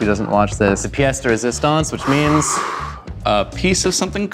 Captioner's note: speaks in Italian